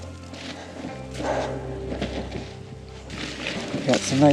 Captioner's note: snow crunching